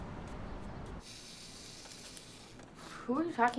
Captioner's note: camera timer whirring